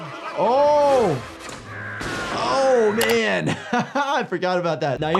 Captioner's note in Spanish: risas